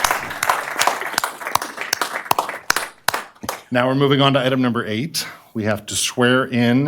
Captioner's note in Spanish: Aplausos